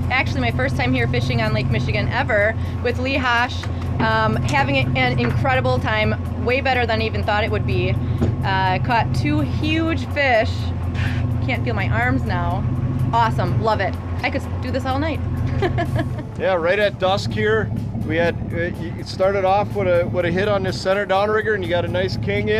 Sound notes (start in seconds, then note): 17.3 laughs